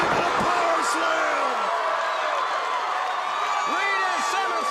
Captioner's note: crowd cheering